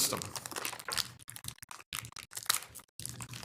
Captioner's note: paper rustling